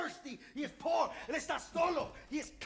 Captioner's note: speaking Spanish